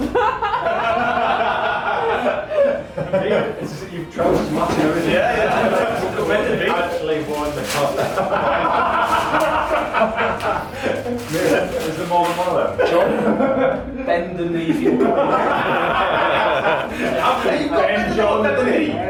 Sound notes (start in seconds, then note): 0.0 laughing; 5.7 laughing; 15.5 laughing and chatting